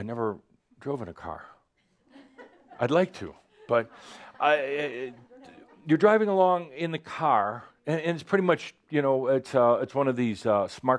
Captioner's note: some laughter